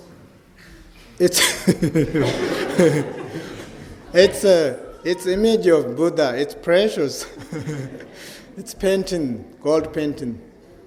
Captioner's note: laughs